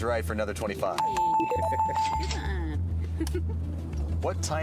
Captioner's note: bells